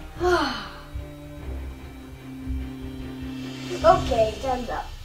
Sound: sighing

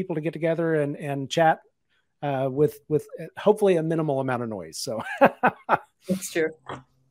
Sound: laughs

